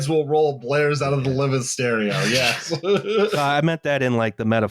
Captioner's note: laughs